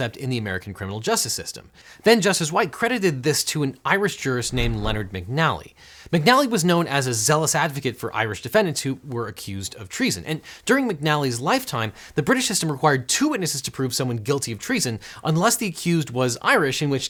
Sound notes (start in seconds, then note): 4.4 air whooshing